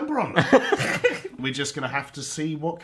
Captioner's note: laughs